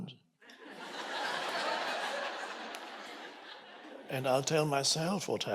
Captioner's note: audience laughs